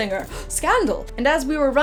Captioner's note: gasp